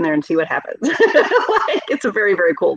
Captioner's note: laughing